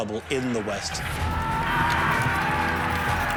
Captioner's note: men shouting